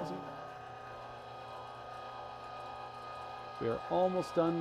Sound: machine roaring

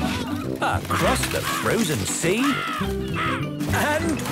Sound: birds cawing

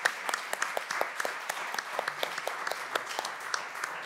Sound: applause

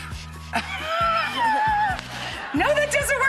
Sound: laughs

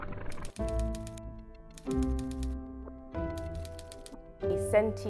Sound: text clacking

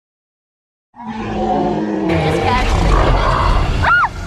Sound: dinosaur roars

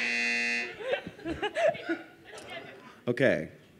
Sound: buzzer; laughter

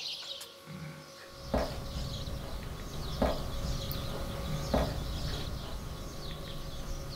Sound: distant birds chirping; water droplets thumping

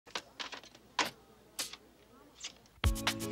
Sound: button pops; 8-track tape clicks; upbeat music

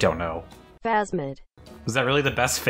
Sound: AI Voice

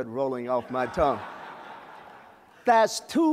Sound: laughter

